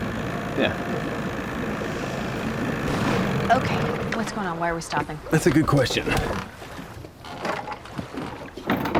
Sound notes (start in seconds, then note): 0.8 engine backfires; 7.3 lid clatters open